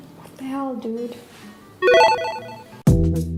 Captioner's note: street fighter sound